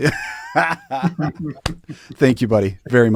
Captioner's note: laughing